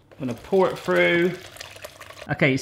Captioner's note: liquid sloshing